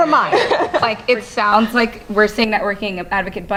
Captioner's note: laugh